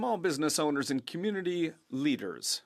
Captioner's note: speaking French